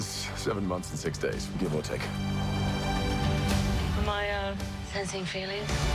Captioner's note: none